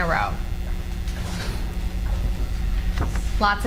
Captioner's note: cards flutter